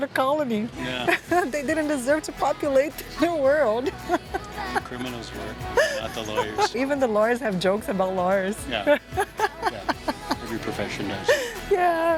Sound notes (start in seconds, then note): 2.8 laughs; 8.8 laughs